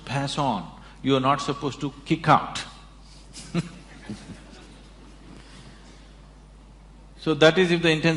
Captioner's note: laughs